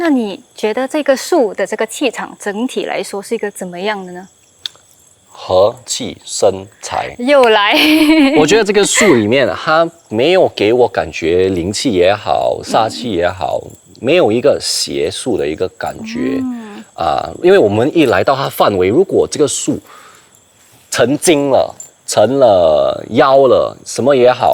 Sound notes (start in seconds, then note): 8.7 laughs